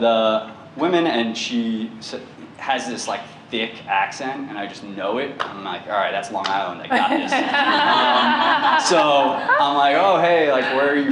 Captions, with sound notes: and she has this, like, thick accent, and I just know it, and I'm like, all right, that's Long Island, I got this. (laughter) So I'm like, oh hey, like, where are you from,